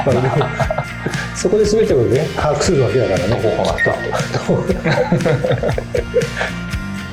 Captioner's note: laughs